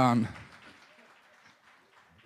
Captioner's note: applause